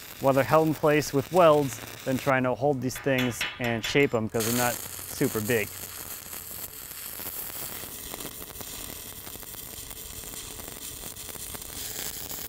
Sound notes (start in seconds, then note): 6.5 welder buzzing